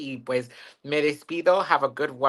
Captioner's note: speaks in Spanish